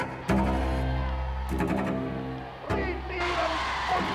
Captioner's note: crowd yelling indistinctly; Hitler speaking in German